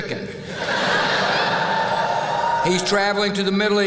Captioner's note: laughter; whoop!